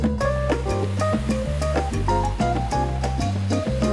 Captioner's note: water roaring